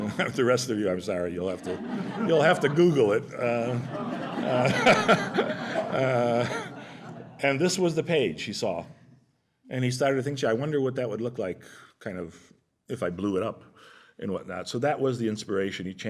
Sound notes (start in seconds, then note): 0.0 laughter; 3.3 laughter